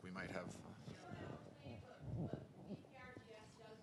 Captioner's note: voiceover